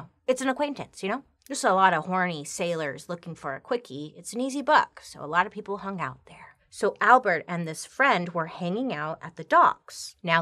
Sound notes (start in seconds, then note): none